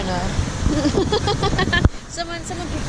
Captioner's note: laughing